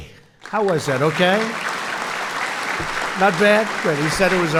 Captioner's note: applause